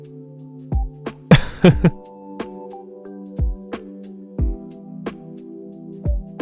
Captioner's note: sigh